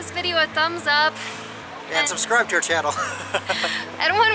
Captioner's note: laughter